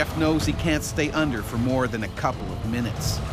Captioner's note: voiceover